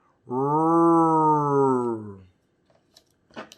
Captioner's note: roaring